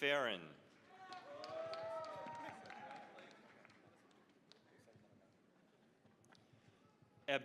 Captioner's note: cheering, applause